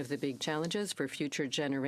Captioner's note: speaking french